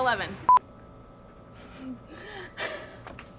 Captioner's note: beeping; laughing